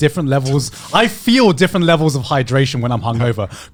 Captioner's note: chuckling